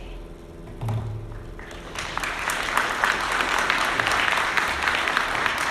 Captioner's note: audience applauding